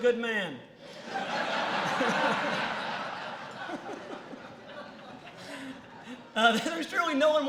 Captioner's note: laughter